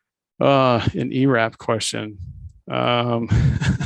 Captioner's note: laughs